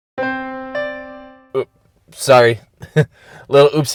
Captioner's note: chuckles